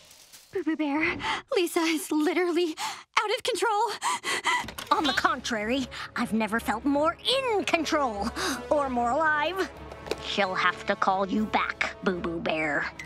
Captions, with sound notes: Boo Boo Bear, Lisa is literally out of control. [panting] On the contrary, I've never felt more in control. Or more alive. She'll have to call you back, Boo Boo Bear.